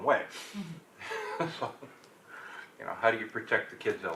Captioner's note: laughs